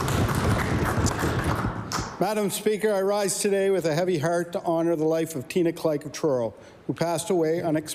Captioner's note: cheering and Applause